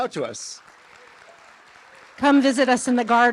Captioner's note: applause